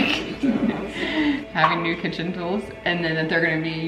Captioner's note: laughing